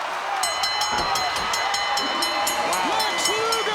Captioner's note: bell dinging